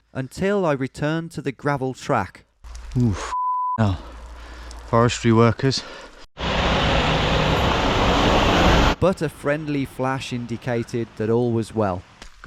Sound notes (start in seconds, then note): 6.4 vehicle rumbling